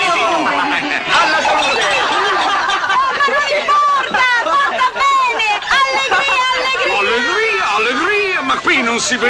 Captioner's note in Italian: risate